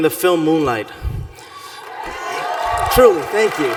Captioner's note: cheering